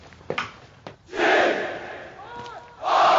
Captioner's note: crowd